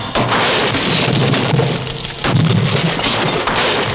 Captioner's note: thudding